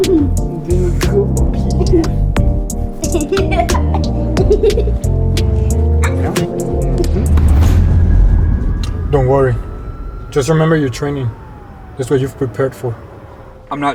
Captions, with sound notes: (child laughing) - Don't worry. Just remember your training. That's what you've prepared for.